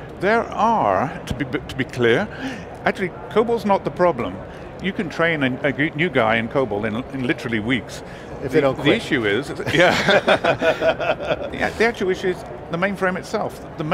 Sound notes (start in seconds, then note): 9.6 both laughing